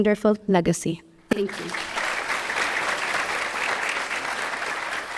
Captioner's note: audience applauding